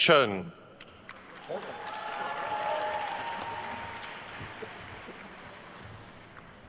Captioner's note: attendees cheering and applauding